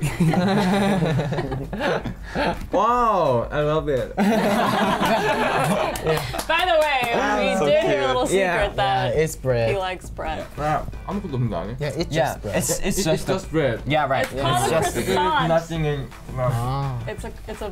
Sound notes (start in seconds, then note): 0.1 laughs; 4.2 laughing and clapping; 11.2 speaking in foreign language